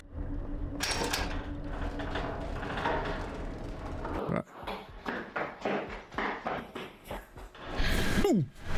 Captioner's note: door opens